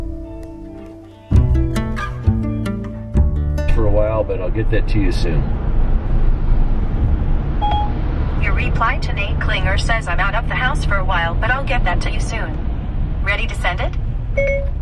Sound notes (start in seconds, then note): 8.2 car